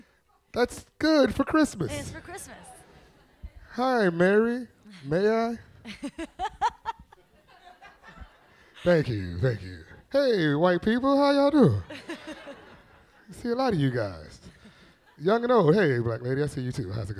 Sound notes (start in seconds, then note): 5.8 laughs; 11.6 audience laughs